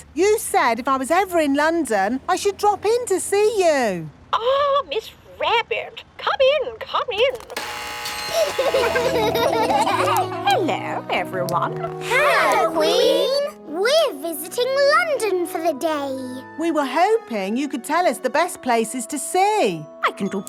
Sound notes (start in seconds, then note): 7.4 gates buzzing; 8.2 kids laughing